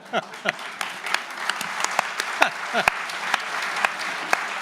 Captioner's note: audience and panelists laughing; audience applauding